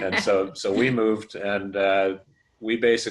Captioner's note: laughter